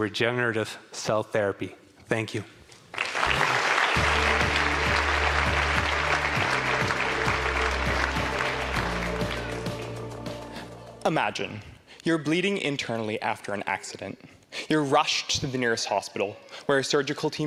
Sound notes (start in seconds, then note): 5.7 applause